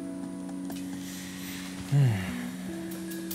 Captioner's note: sighs